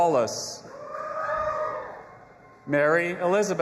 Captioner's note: audience applauding and cheering